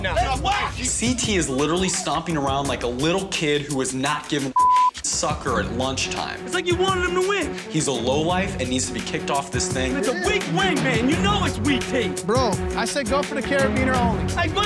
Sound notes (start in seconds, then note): 4.5 beep